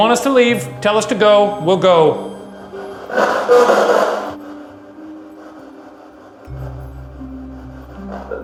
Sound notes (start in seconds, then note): 3.3 spirit box chattering